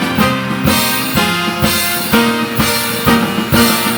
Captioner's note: audience applauding; uptempo cheery music